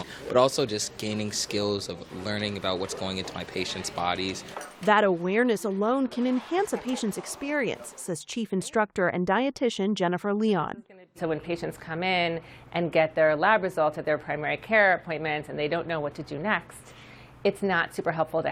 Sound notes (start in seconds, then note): 5.2 voice-over